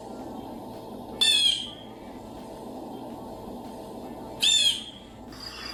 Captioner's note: blue jay chirping